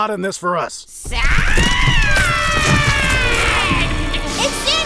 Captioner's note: shrill voice